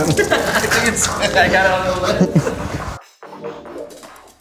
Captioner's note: men laughing